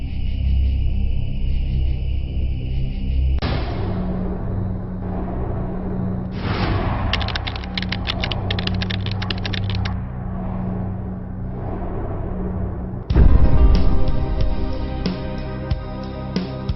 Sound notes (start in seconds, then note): 7.1 keys tapping; 13.7 suspenseful music